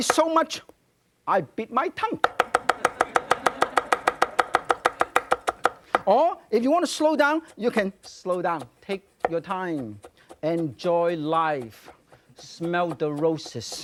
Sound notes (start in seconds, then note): 2.5 audience laughing; 4.5 knife cutting on board